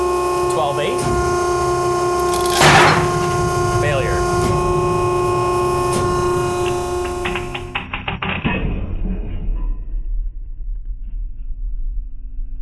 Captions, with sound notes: 12,8. (sling pops) Failure. (machine whirring)